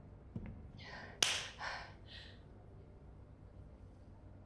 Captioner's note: claps